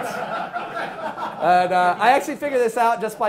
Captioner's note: class laughing